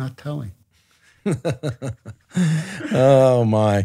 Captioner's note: Andrew laughs